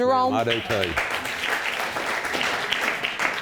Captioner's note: audience applauding